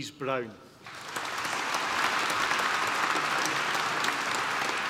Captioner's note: applause